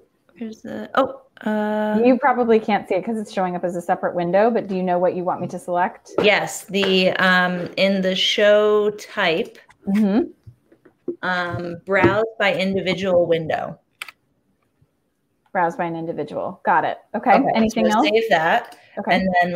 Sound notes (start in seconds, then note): 17.4 chatter